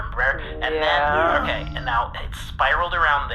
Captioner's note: hesitantly